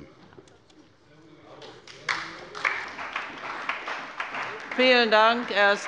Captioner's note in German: Beifall bei Abgeordneten der CDU und des BÜNDNISSES 90/DIE GRÜNEN